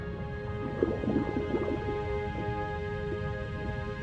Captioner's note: water sloshes; gentle music